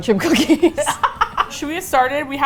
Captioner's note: both laugh